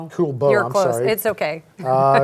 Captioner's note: chuckles